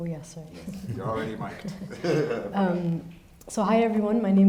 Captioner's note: chuckles